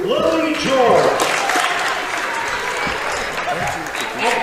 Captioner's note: cheering